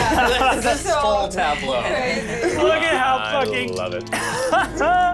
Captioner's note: overlapping chatter